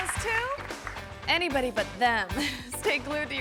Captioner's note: chuckles